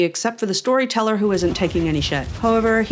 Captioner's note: blast, blast, blast